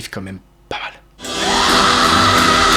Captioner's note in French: pleure